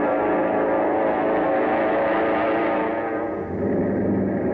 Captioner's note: airplane engine roaring